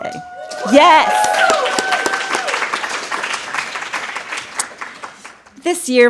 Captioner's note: applause